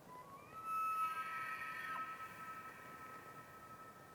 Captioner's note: elk bugles